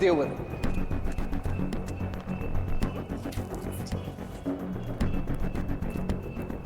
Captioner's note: suspenseful music continues; vehicle droning